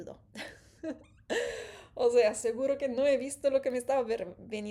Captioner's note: gasp